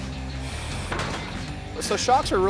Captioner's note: car piece clacking